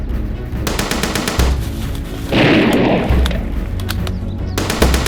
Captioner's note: gunfire rattles